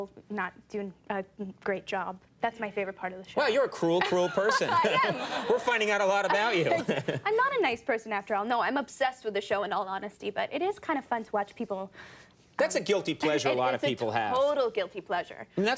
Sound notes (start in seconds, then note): 6.6 chuckles